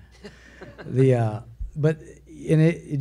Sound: a few laugh

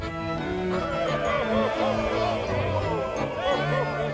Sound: hollering

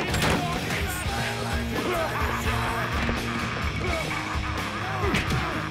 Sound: laughing

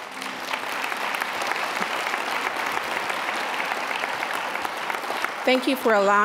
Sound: applause

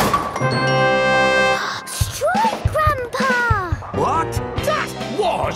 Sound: gasps

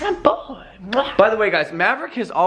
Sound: muah

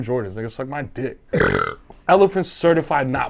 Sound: belches

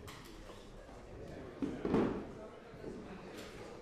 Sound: background chatter

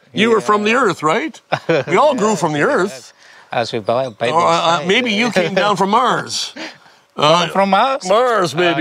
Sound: laughs

